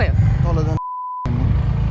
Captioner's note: beep